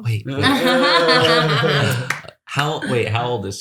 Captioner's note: laughter